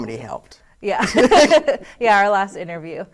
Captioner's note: laughs